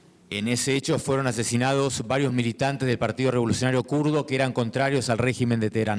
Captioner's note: speaking in foreign language